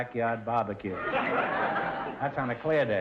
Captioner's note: audience laughter